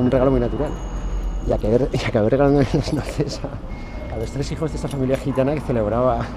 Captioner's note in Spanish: risas